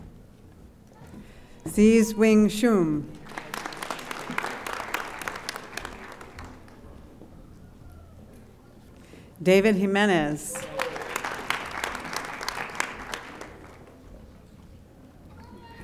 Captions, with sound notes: Xe Swin Shoon. (audience applauding) David Jimenez. (audience applauding)